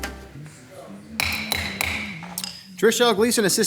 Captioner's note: gavel banging